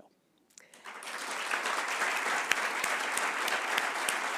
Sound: applause

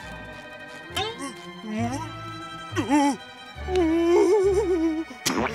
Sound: muffled whimpering

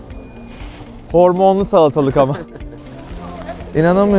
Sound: laughter

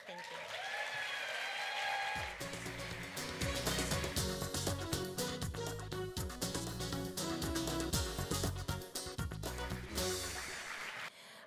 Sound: applause, music

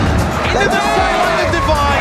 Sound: crowd cheering

